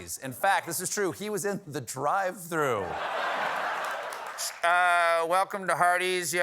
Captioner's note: as employee over speaker